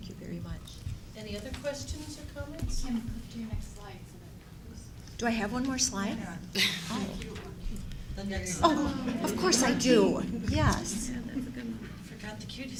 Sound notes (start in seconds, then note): 6.8 chattering